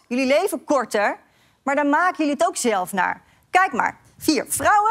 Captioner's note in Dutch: none